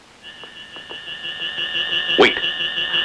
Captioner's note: eerie buzzing